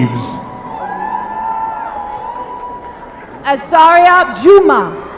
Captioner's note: applause